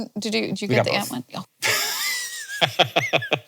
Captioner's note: laughs